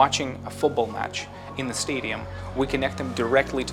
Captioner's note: sounds of cheering crowd